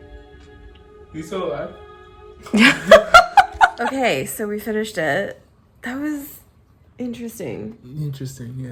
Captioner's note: laugh